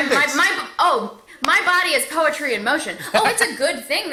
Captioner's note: laughs